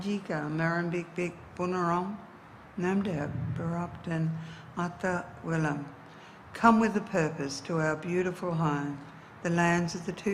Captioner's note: speaks in indigenous dialect